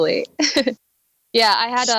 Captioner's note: laughs